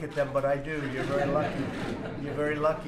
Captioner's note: laughter